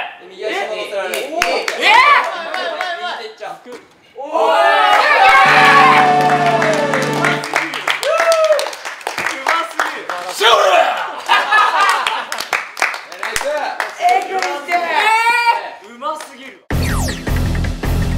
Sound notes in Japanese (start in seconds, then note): 5.0 拍手; 12.2 爆笑